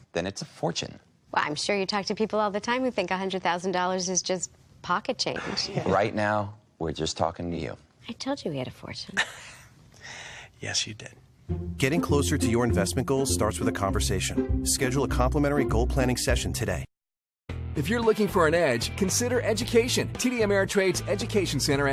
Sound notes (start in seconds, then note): 9.3 laughs